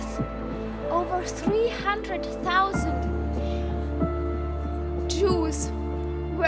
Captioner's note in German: von Tränen überwältigt